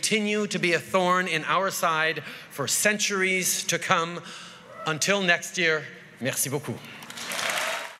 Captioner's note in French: Acclamations et applaudissements